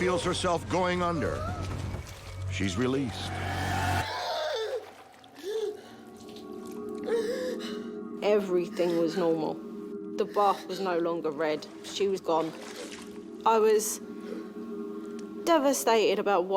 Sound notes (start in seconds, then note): 4.0 gasping